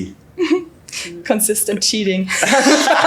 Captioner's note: chuckles; laughter